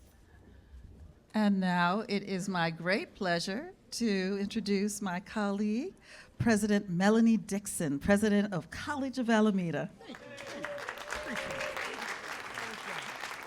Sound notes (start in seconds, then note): 10.1 cheers and applause